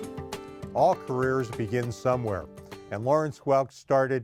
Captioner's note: voiceover